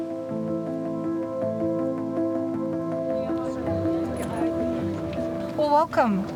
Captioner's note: people talking in background